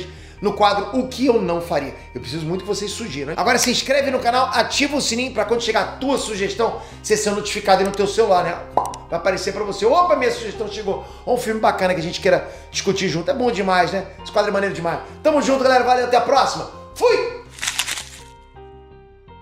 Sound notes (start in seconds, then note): 8.7 pop